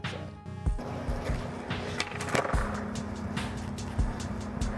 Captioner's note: skateboard rumbling